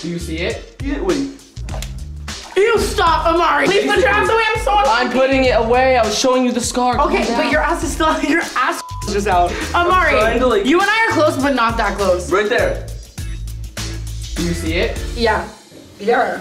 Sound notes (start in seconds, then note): 8.8 beep